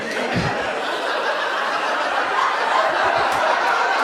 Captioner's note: audience laughs